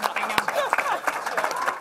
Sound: applause

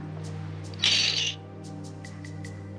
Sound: chips clatter

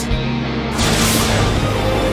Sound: lightning

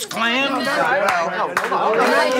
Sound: applause

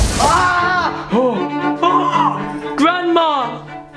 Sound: screams

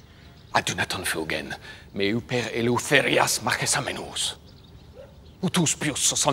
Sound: Themistocles speaking in foreign language

